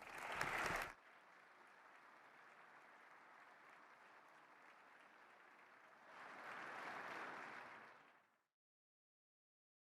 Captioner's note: applause